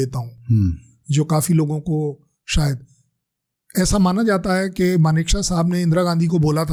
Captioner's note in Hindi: गला साफ़ करने की आवाज़